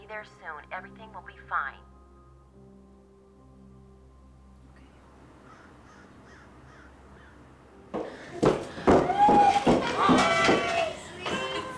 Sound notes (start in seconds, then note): 7.9 footsteps echoing